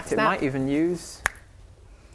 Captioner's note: snap